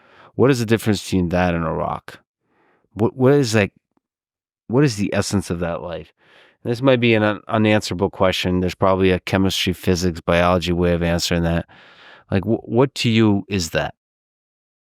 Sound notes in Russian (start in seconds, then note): none